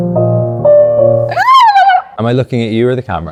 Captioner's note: Claire screaming